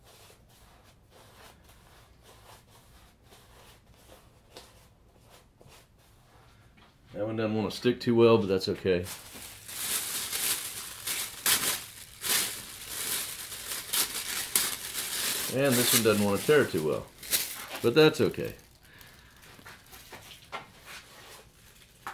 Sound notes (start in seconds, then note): 10.5 sound of paper being torn